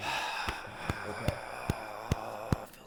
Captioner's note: sighing